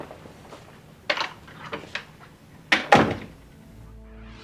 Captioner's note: door clicking